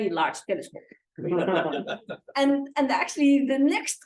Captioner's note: laughter